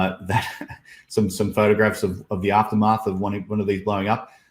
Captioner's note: chuckles